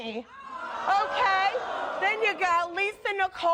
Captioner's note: audience groaning